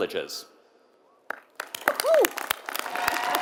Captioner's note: applause